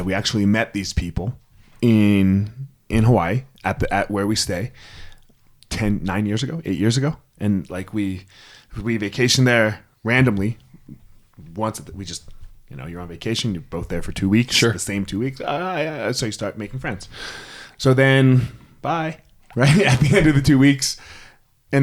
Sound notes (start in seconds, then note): 15.5 exclaims; 19.5 laughs